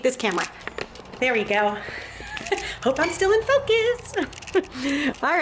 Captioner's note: laughing